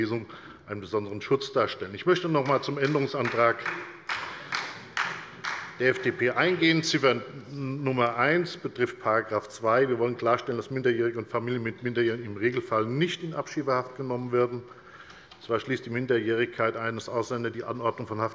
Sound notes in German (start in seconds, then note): 2.4 Beifall bei der FDP und der SPD